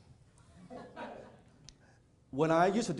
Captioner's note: audience chuckling